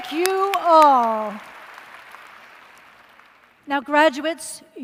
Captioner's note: applause